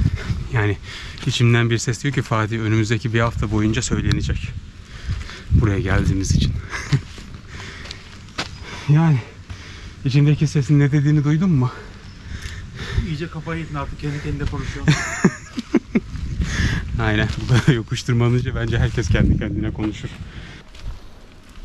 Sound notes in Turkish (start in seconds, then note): 14.6 gülüyor